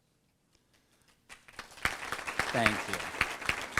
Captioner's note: applause